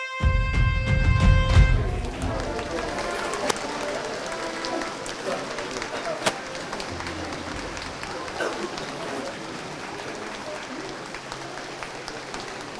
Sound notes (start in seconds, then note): 1.7 applause